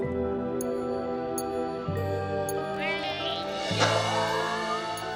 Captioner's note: suspenseful music; bike sparkling; Milo grunting